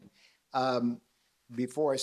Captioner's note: laughs